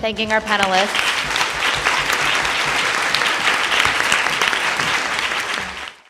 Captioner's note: attendees applauding